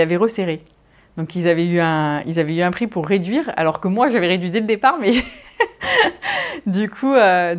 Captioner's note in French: rires